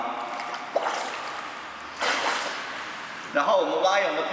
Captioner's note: water flow